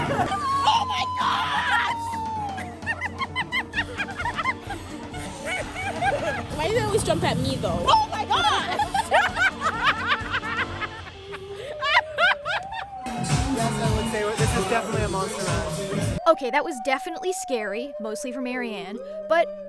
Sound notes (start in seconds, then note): 4.5 nervous laughter; 11.0 laughter